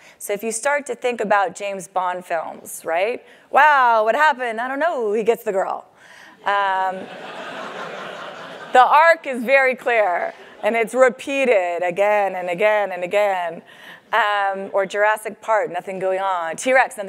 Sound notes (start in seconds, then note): 7.0 laugh